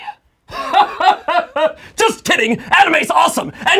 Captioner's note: laughing dramatically